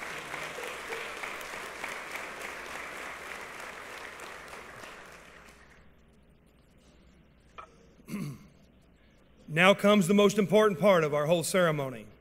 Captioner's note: applause